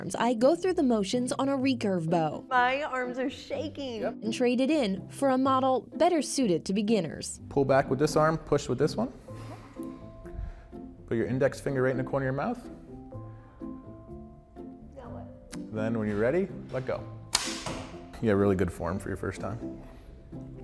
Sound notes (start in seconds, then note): 17.3 snapping